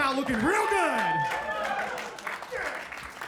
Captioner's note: audience clapping